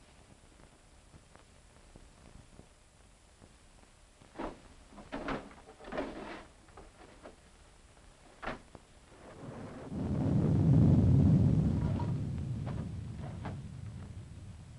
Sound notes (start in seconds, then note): 5.0 drawers rattling; 9.1 thunder rumbling; 11.8 drawers rattling